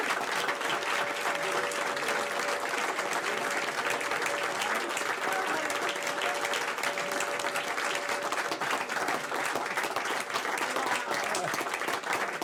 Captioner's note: applause